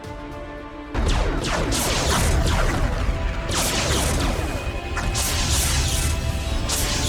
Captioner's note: cannons blasting; explosions booming